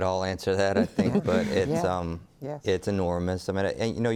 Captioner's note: all chuckle